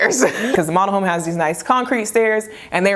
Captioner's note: chuckles